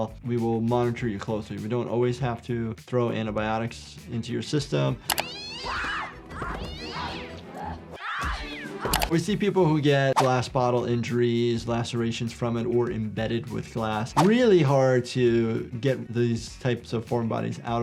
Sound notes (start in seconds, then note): 5.2 cat yowling; 5.2 Cindy screaming